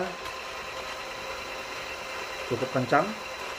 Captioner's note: printer machine sound